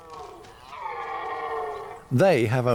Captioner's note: deer roaring